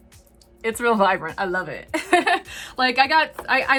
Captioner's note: laughing